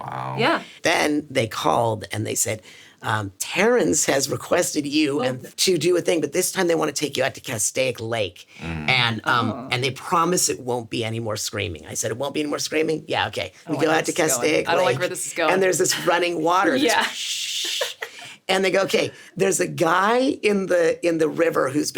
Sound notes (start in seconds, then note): 17.6 laughs